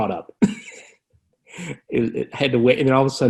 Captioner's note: laughs